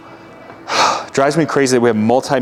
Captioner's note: sighs